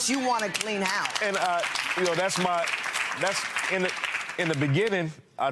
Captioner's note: audience applauding